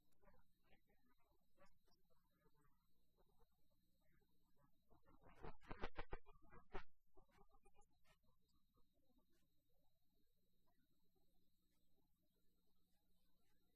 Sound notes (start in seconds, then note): 5.3 laughter